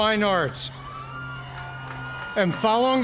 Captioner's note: cheers and applause